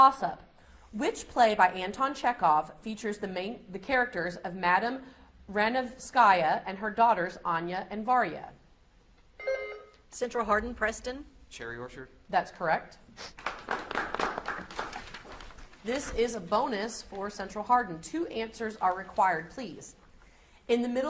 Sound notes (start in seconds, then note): 9.4 beep buzzing; 13.3 audience applauds